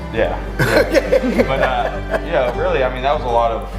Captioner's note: laughing